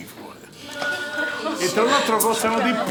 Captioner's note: women whispering